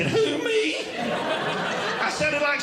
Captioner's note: audience Laughing